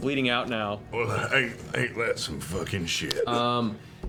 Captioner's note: deep voice